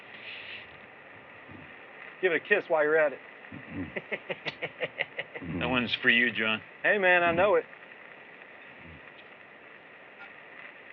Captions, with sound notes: GIVE IT A KISS WHILE YOU'RE AT IT. -[ SMOOCHES ] -[ LAUGHS ] THAT ONE'S FOR YOU, JOHN. HEY, MAN, I KNOW IT.